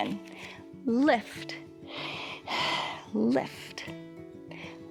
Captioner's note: exhales